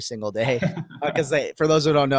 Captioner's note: laughing